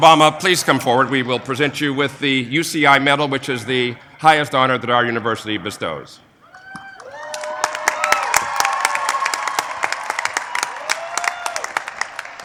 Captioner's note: applause